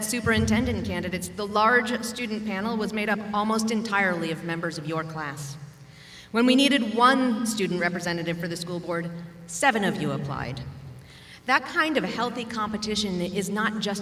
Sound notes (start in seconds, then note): none